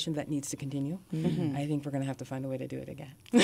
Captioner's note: murmur of agreement